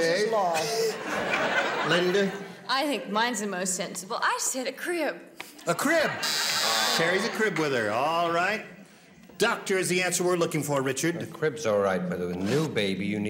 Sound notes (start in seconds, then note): 0.5 laughter; 6.1 buzzer sounds